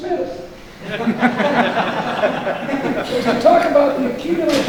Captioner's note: audience laughing